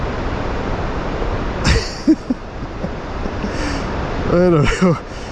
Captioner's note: laughs